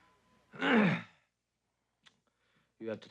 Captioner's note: clears throat